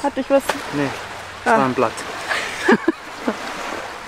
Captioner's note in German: Lachen